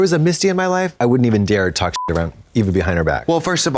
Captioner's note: beep